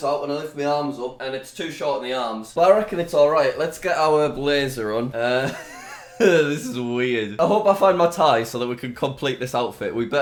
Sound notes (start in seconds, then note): 5.3 laughs